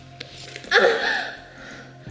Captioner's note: cries out in pain